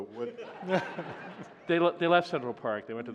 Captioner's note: laughter